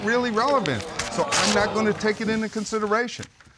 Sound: audience murmuring

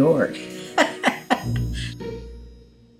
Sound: laughs

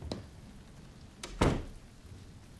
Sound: door closing

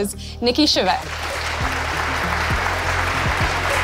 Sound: applause

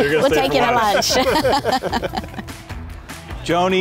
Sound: all laughing

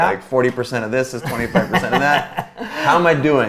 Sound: A.J. laughs

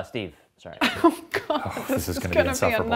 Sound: laughing

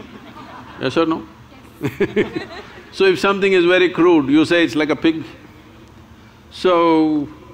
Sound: laughs

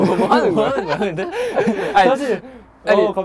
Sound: laughing

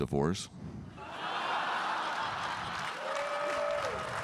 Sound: audience laughing; audience clapping

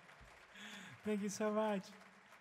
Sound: audience claps

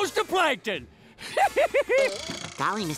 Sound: laughing

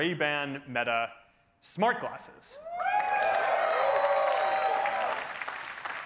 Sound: cheering

